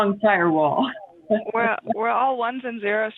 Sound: laughter

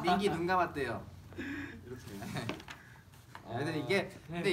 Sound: laughing

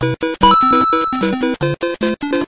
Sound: Coin collecting sound from Super Mario Bros

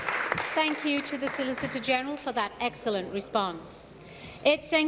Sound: applause

